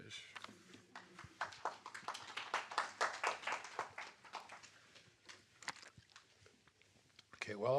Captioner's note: applause